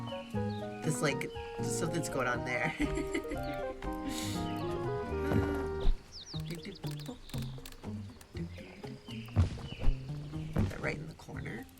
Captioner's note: laughs